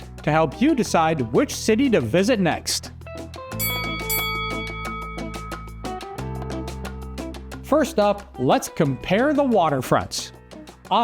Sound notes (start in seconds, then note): 2.9 mellow music; 3.6 bell dings